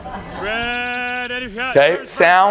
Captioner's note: quarterback yelling playcall